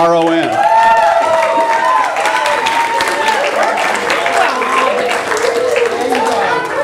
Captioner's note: audience applause